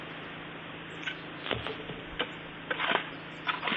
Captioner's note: birds singing